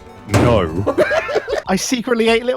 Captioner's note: laughter